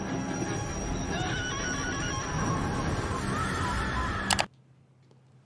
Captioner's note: ominous string music; victim screaming